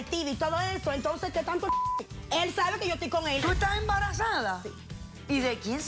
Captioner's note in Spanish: Bip